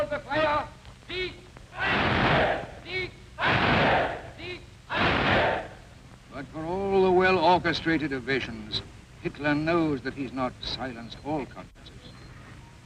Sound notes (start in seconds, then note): 3.3 Nazis chanting